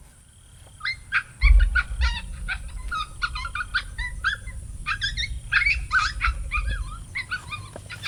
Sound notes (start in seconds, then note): 0.8 coyote pup distress call